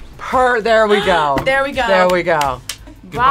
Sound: gasps

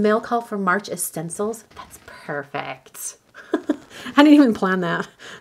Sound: laughs

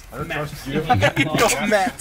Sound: laughing

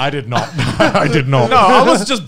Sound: laughing

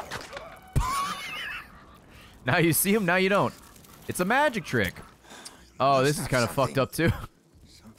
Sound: laughs

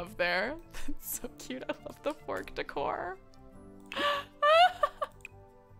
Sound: laughs

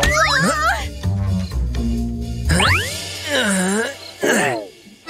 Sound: groans

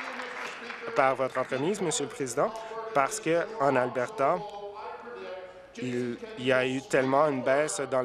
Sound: applause

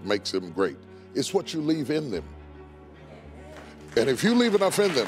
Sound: audience clapping

